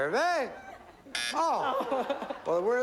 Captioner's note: buzzer